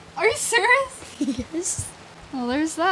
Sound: giggles

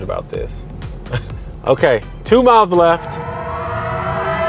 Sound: chuckles; ominous music

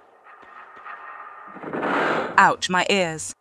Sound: loud lever

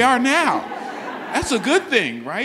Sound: audience laughs

